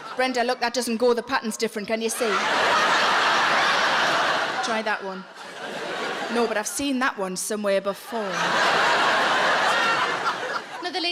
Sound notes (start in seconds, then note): 2.0 audience laughing